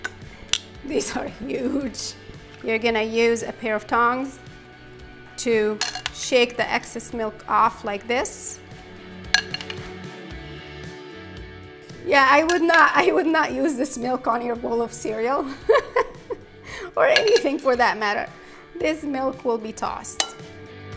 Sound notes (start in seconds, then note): 9.7 pleasant music; 15.5 laughs; 20.7 pleasant music